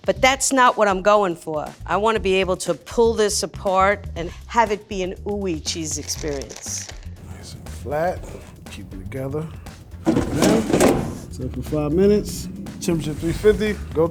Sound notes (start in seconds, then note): 9.8 drawer closing